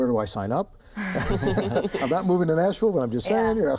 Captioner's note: laughttr